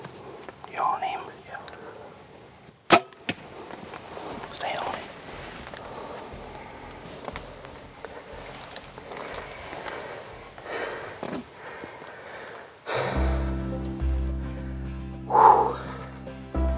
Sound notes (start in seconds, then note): 1.4 whispering; 7.3 whispering